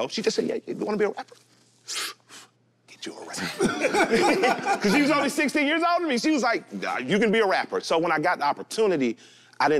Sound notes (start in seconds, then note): 1.8 inhales; 3.4 group laughs